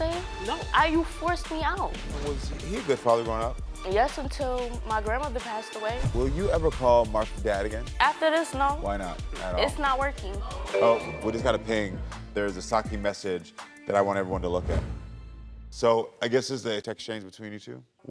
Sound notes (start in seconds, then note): 10.4 audience groans; 10.7 phone pings